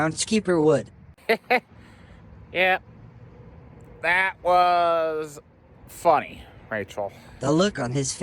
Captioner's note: chuckles